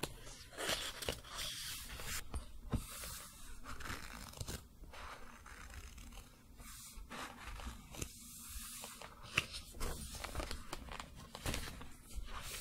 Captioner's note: pages turning, book creaking